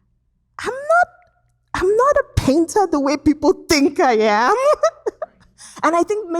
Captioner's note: laughs